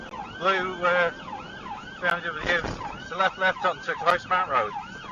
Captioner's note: car clunks over speed bump